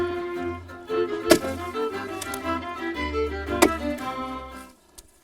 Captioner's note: ax chopping